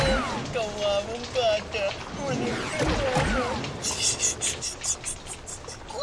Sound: Ikong snickers

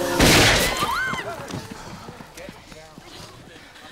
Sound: gun firing; screaming

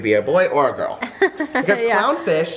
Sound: laughs

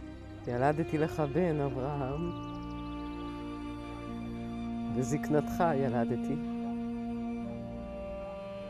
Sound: speaking in Hebrew

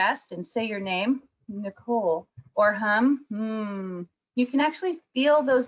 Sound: hums

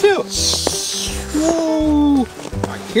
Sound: whooshing

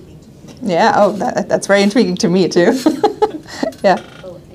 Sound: laughing

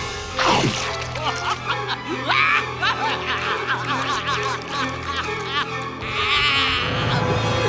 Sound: laughing

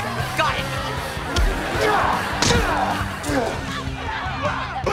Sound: grunting

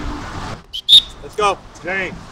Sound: blows whistle

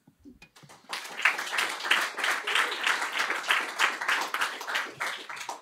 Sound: applause

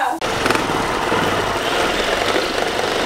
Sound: orbital buffer buffing

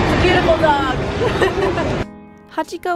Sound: laughs

